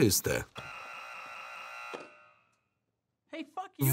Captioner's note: buzzing many times